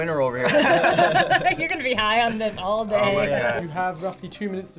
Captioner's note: all laugh